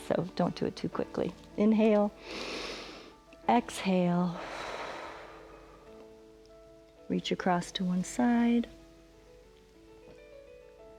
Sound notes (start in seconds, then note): 2.2 inhales; 4.8 exhales